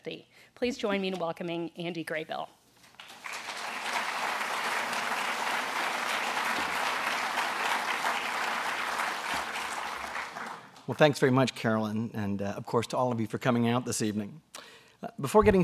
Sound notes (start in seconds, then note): 2.9 applause